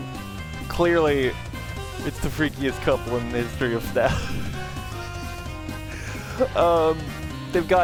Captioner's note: laughing